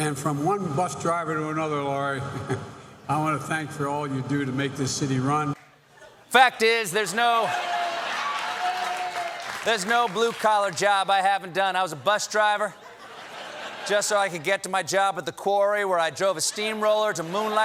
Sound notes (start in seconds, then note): 11.0 applause